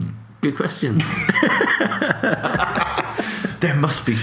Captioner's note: laughs